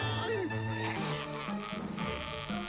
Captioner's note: grunts